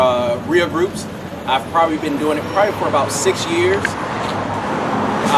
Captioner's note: truck noise